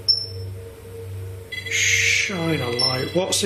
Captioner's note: beeping